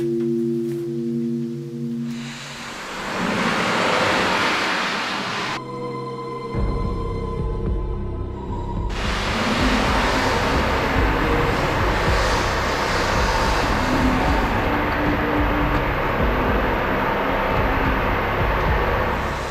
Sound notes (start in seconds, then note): 5.6 the sound of running water through the tunnel; 10.1 strange sounds and screams